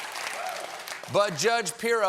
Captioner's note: applause